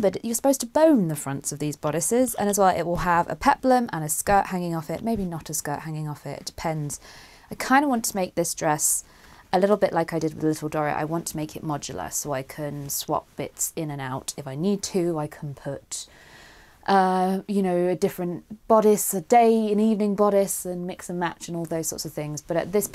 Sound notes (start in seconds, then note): none